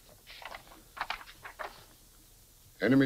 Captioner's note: paper rustles